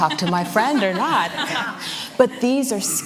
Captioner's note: laughter